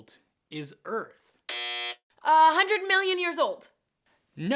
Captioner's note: buzzer